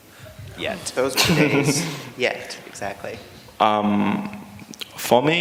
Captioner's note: laughter